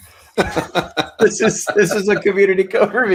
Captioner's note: both laughing happily